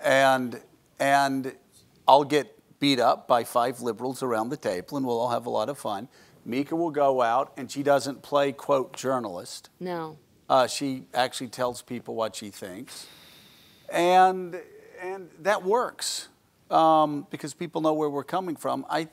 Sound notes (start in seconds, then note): none